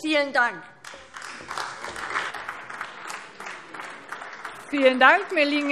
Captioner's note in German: Beifall AfD